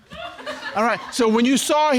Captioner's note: audience laughs